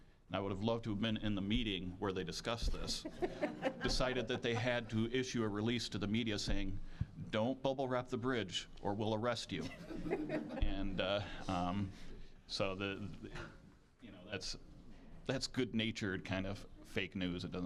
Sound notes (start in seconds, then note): 3.0 audience laughing; 9.7 audience chuckling